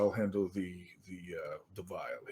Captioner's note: none